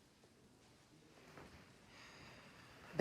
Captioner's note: sighs